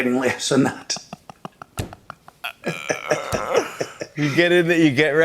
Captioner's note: laughter